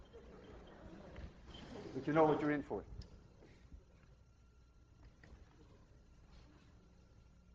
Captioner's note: students laugh